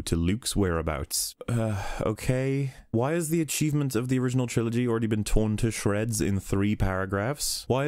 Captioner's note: sigh